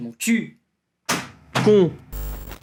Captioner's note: sound of a technician hitting a computer